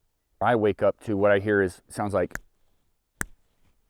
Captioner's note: thumping fists